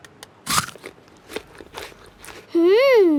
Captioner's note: crunches